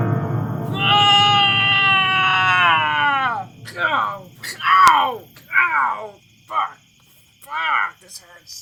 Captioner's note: Pidgy screaming in pain